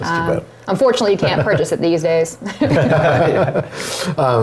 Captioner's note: laugh